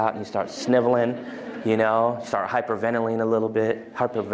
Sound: laughter

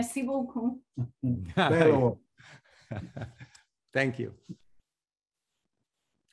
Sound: speaks in foreign language

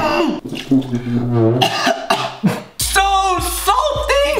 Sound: coughing

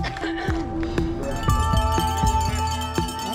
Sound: crowd cheering; bell ringing

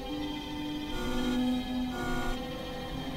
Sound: communicator buzzing

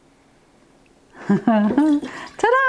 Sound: laughing

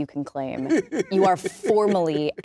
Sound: laughs

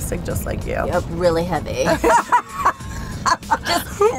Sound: laughing

